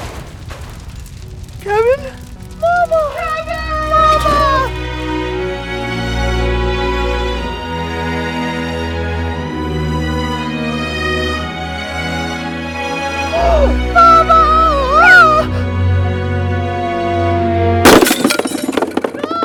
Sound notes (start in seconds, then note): 13.2 gasps; 17.8 smash!